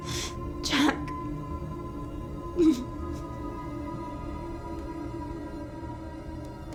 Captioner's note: whimpering